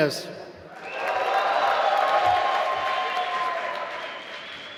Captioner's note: applause